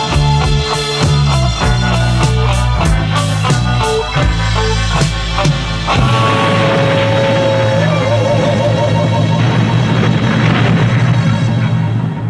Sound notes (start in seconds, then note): 6.0 explosion